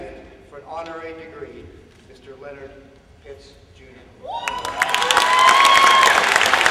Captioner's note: applause